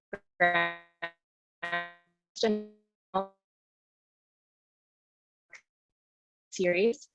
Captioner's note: audio distortion